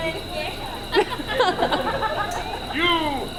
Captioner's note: audience laughs